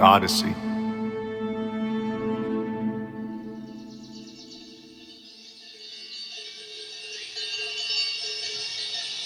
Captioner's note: soundbite of birds chirping, distant cowbells ringing